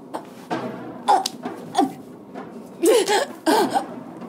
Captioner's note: groans